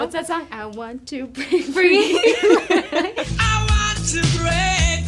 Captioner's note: both laughing